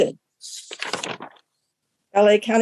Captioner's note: paper flipping sound